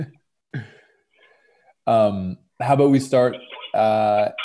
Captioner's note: chuckling